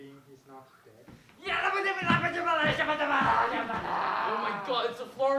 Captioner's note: Shouting in Florida